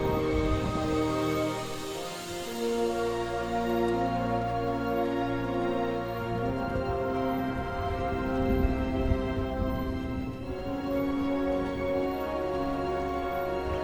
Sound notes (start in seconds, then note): 0.2 dramatic music; 8.0 thunder crashing; 10.9 dramatic music